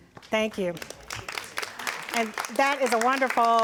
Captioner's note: audience applauds